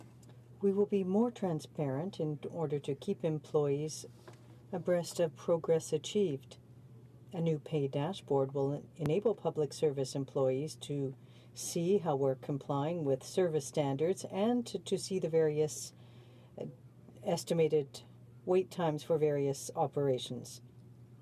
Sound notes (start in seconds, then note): 3.7 speaking french